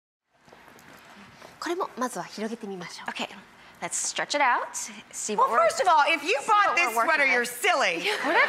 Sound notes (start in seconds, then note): 1.8 speaking foreign language; 8.0 crowd and laughs